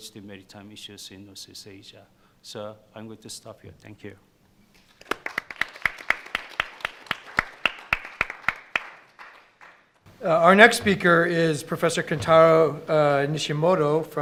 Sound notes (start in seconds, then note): 4.8 clapping